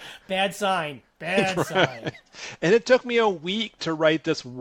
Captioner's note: laughing